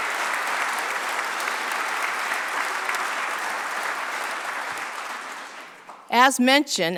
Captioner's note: applause